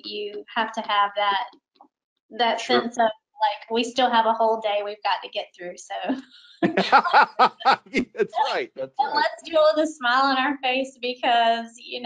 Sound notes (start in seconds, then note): 6.5 laughs; 6.6 laughing